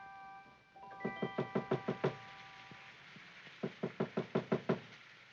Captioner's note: knocking at window